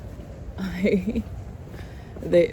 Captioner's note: chuckles